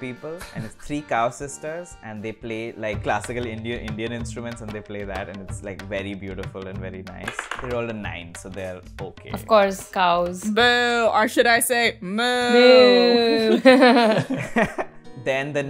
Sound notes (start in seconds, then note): 12.5 laughs